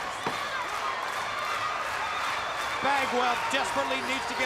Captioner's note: crowd cheering